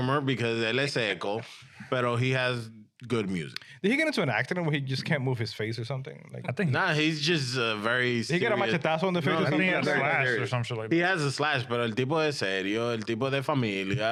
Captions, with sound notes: because, let's say, but he has good music. Did he get into an accident where he just can't move his face or something? Nah, he's just very serious. He got a Machitasso on the face or something? I think he has a slash or something. He has a slash, but (Speaking In Foreign Language)